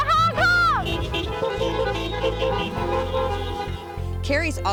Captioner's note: cars honking